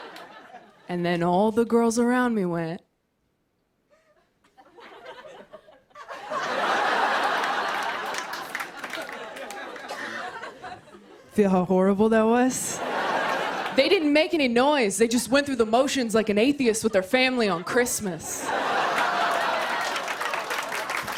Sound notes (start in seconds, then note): 6.1 laughter and applause; 11.8 laughter; 18.3 laughter; 18.5 cheers and applause